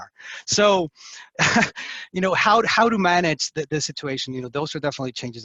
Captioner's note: laughs